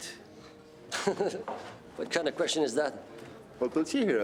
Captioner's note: laughs